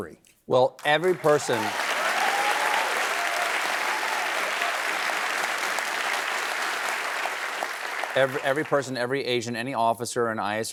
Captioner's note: applause